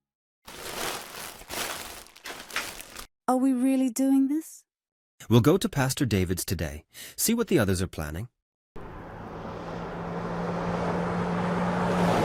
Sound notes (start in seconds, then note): 0.4 supplies rustling; 8.8 engine roaring